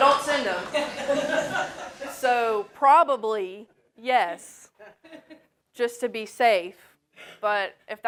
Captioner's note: laugh